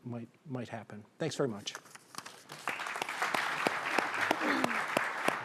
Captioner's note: audience applauding